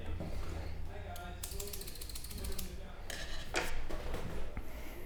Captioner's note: scissors snipping